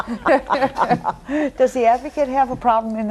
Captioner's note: everyone laughs